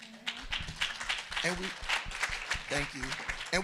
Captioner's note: audience applauding